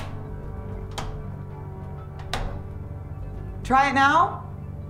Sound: switches clacking

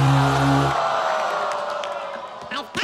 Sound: sour note plays; audience groans

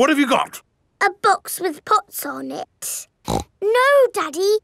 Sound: snorts

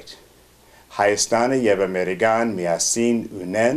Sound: armenian

